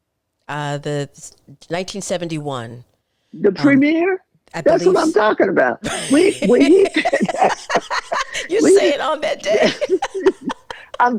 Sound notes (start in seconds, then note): 5.8 laughing